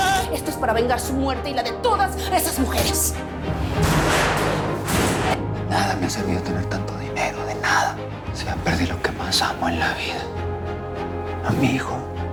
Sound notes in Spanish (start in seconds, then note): 3.7 Golpes